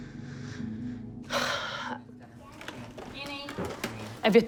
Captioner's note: sighs